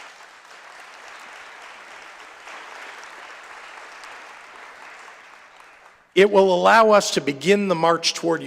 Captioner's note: applause